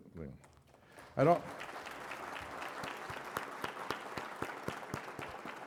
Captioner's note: applause